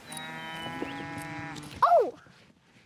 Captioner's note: cows mooing